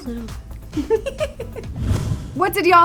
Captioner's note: laughing